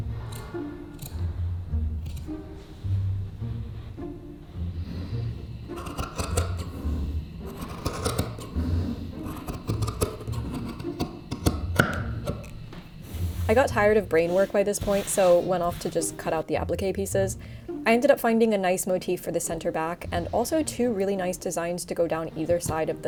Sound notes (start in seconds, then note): 0.2 whimsical music continues; 7.4 fabric cutting